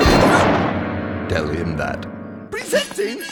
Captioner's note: thudding